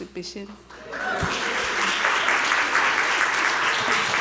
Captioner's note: audience applause, cheers